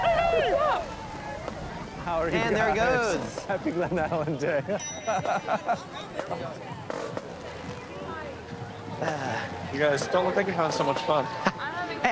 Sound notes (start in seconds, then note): 4.9 laughs